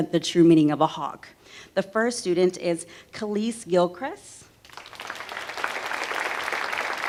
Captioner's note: applause